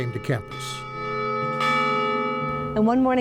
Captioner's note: bell ringing